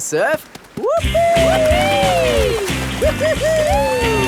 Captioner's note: both whooping